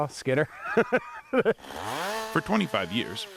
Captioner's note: laughs